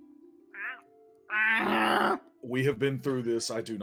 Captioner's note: imitating a Griffin